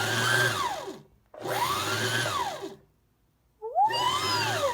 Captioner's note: whirring